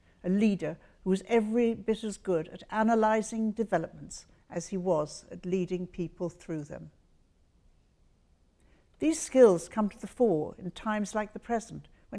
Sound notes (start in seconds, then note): none